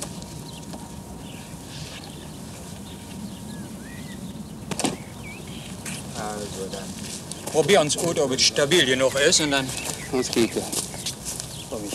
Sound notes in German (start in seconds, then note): 5.8 Arbeitsgeräusche und -gespräch